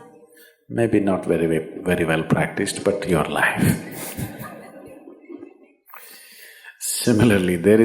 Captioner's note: laughs